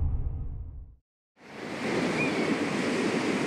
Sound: waves crashing

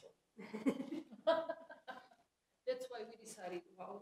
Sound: laughter

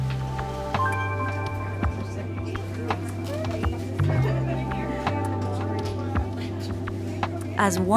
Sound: misc. people chatting

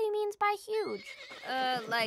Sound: horse neighing

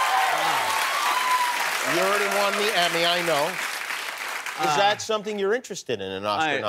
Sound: cheers and applause

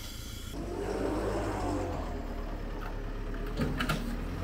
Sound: truck whirring

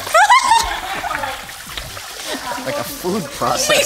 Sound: chuckling

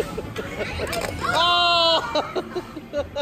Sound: laughing

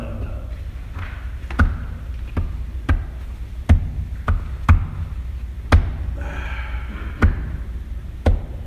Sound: tapping and heavy sigh

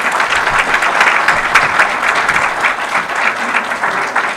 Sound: audience applause

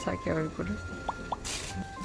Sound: scritches

